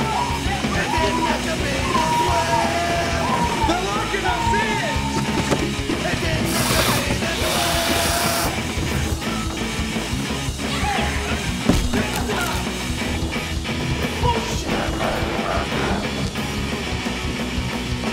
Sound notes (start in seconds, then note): 0.0 crowd screaming; 5.2 hands thudding; 5.6 zombies hissing; 10.7 loud punk music